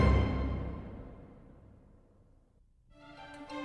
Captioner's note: silence